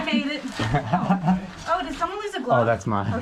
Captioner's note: laughing